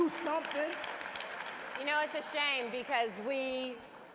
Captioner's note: applause